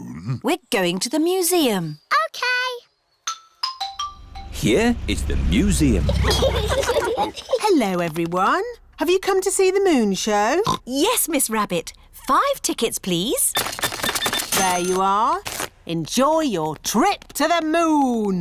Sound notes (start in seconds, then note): 10.6 oinks